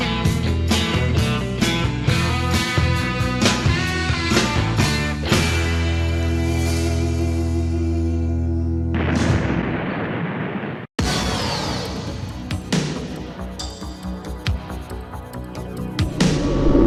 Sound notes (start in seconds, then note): 9.0 explosion booming; 11.0 dramatic music